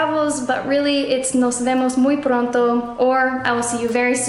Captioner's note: speaking in foreign language